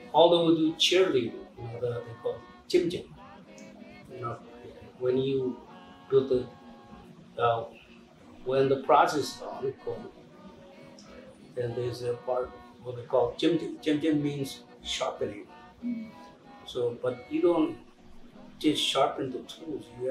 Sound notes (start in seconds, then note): 3.0 non-english speech; 13.4 non-english speech